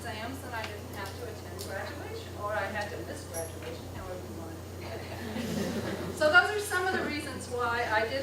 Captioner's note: laughter